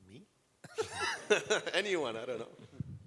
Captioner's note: laughter